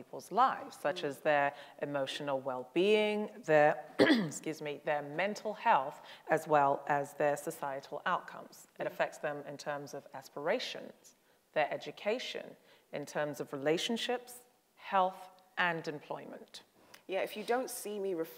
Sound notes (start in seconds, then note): 3.9 coughs